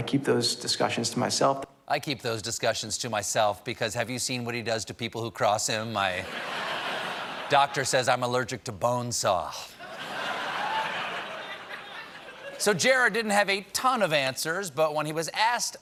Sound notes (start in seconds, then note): 9.8 laughter